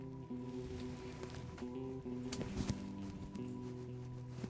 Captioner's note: quiet rustling